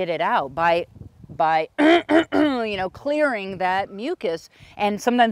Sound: clears throat

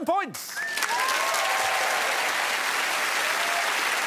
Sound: crowd applauds and cheers

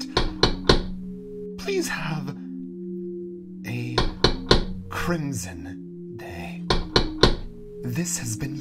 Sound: knocking

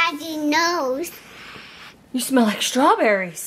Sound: mom sniffs

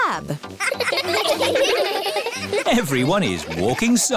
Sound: laughing

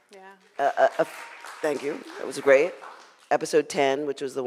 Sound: audience clapping

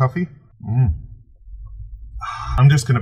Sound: sighs

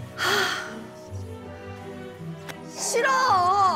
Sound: sighing

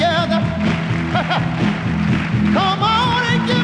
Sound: laughs

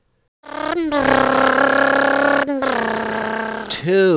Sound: funny motor sound goes

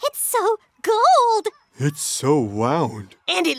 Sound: none

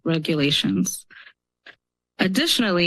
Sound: pause

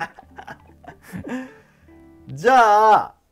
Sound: laughing

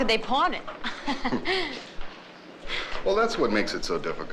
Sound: laughs

